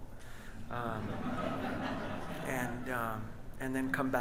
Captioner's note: audience laughs